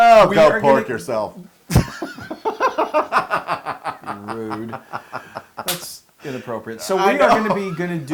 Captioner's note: laugh